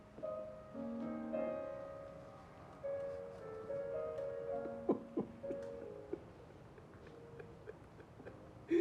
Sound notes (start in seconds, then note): 4.6 sobbing